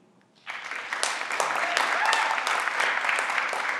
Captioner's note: everyone claps